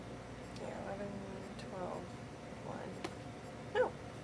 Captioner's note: counting